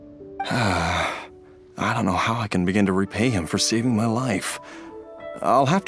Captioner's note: sigh